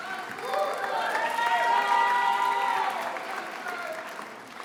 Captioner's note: attendees applauding